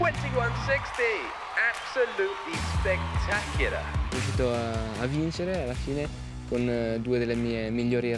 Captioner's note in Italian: Applauso